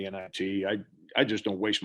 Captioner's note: murmurs